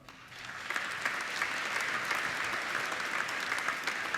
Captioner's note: applauding